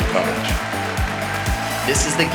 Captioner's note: audience applauding